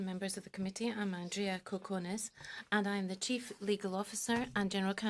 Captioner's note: speaking in French